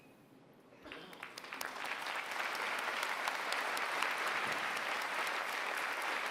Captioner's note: applause